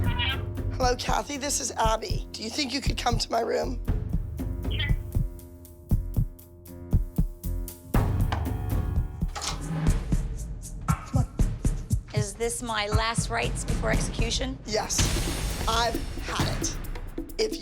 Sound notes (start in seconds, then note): 0.2 on phone; 4.3 on phone; 8.2 knock on door